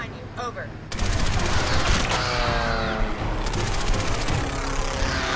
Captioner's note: turrets firing; dramatic music; creatures screeching